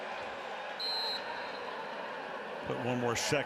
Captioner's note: whistle